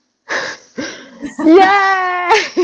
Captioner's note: laughter